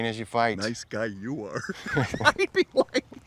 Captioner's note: laughing